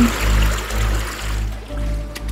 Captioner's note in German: Plätschern